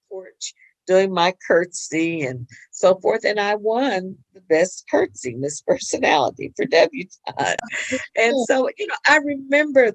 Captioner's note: laughs